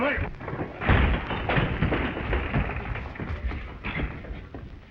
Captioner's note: table clattering